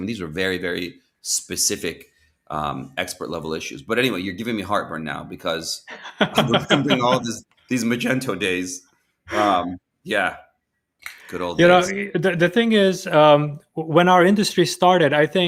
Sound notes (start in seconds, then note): 5.8 laughs